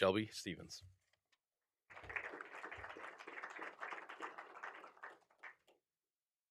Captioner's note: applause